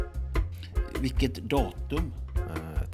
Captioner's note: in Icelandic